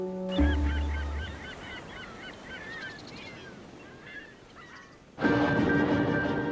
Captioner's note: birds squawking; waves lapping; tense music